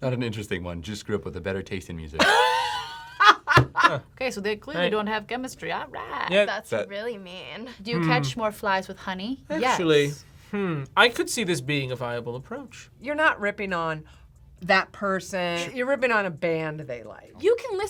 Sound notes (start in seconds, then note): 2.2 laughs